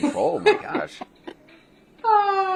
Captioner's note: laughter